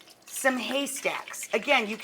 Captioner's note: pan sizzling